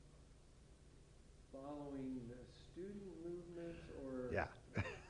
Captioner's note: chuckles